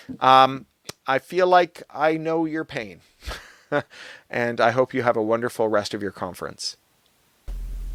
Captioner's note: laughs